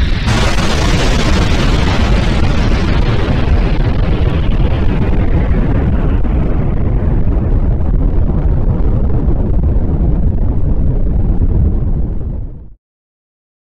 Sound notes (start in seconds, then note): 0.0 explosion circles earth a 2nd time; 7.6 rumbling